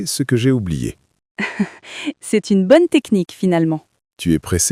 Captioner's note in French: rire